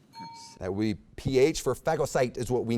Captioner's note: bell ding